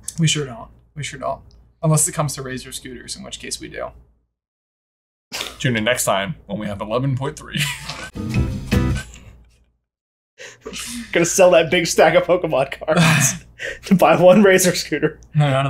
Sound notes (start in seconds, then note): 7.5 both laughing